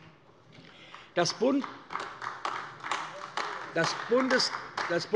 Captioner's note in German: Vereinzelt Beifall AfD